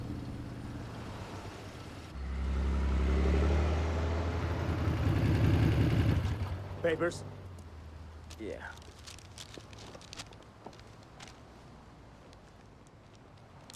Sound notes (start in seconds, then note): 8.3 paper rustling